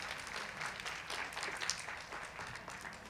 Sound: cheers and applause

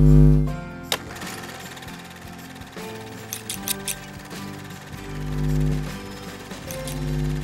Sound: upbeat music; film reel ticking; scissors clicking

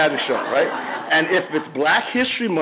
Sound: audience laughs

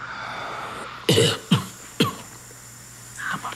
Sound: coughing

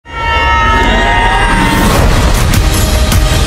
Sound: screaming

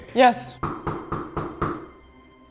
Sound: front door knocks

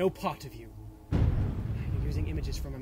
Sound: thunderclap

